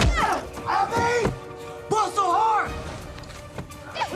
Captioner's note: shouts